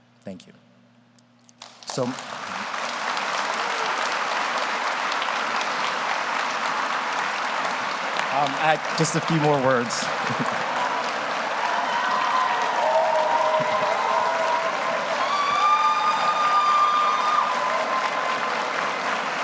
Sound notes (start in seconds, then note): 1.4 audience applauds; 10.1 chuckles; 12.2 audience applauding; 12.2 audience cheering